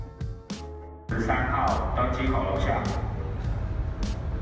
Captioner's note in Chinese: 機場廣播中